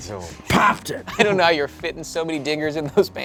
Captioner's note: laughs